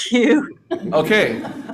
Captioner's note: audience laughing